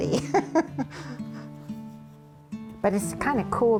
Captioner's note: laughs